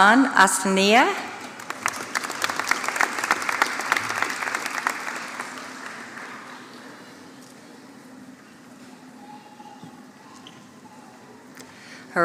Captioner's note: applause